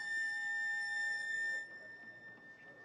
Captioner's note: feedback quietens